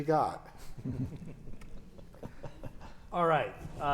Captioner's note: panel chuckles